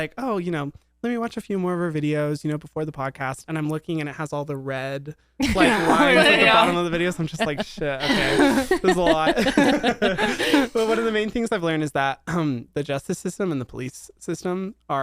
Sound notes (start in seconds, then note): 5.4 laugh; 9.4 everyone laughs